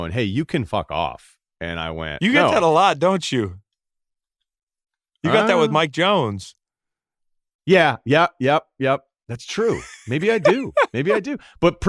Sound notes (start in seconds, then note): 9.6 laughs